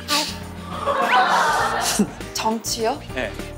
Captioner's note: failed to hold laugh